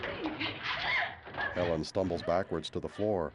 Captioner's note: gasping